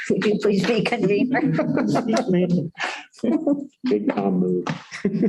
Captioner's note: laughter